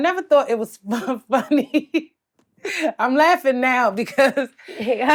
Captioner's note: laughs